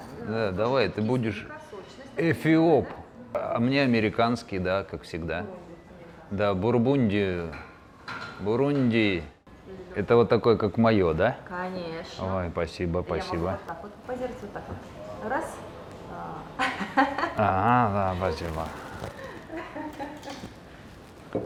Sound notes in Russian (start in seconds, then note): 16.6 смеётся